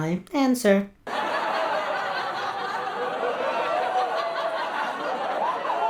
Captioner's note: laugh Track